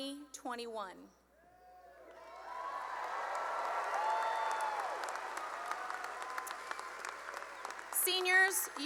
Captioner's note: cheering and applause